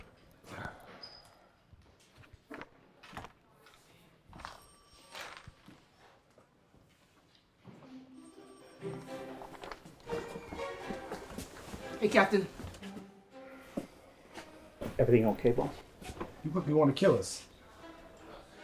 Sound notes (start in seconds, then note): 0.8 Captain sighs